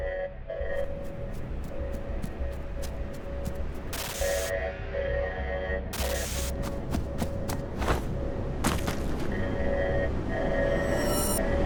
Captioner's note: running ftsteps